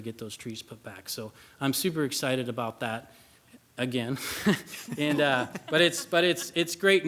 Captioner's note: laughs